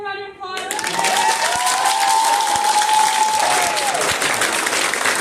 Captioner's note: applause